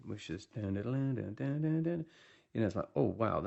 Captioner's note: hums riff